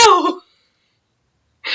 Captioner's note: laughs